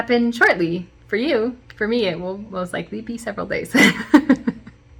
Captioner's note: chuckle